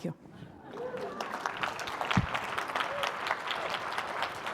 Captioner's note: audience applauding